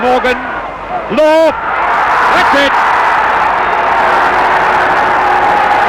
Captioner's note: crowd roaring